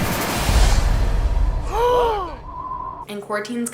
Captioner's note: gasping